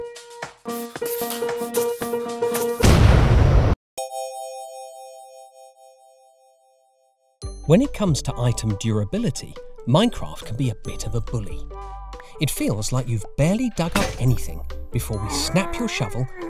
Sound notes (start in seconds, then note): 2.1 creeper hissing; 2.8 massive explosion